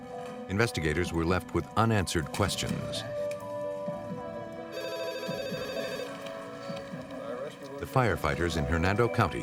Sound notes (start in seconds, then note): 4.6 telephone ringing